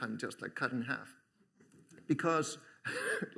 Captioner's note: laughter; chuckles